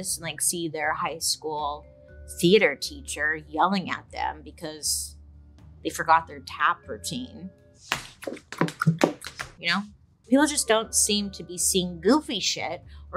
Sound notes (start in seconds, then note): 7.9 shoes tapping